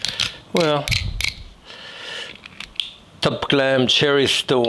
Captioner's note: knife scraping